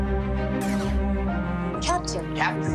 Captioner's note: door whooshes